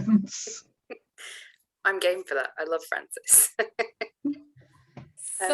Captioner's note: laughs